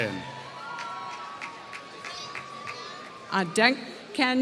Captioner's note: applause